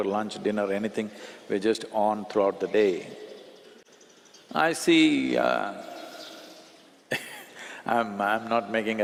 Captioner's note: laughs